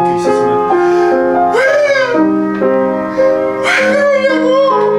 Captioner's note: scream